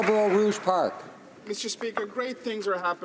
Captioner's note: some Applause